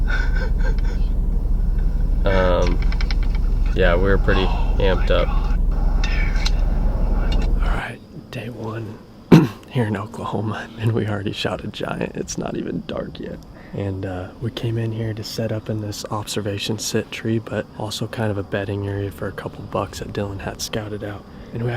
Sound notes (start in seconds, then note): 0.0 laughs; 9.3 clears throat